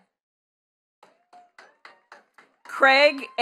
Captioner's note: attendees clapping